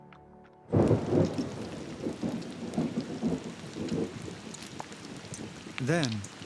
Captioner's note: thunder rumbling